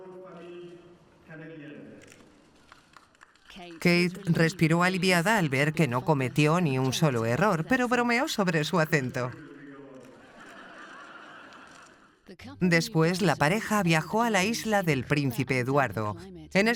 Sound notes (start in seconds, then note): 9.1 crowd laughs